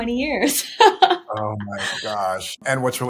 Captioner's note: laughing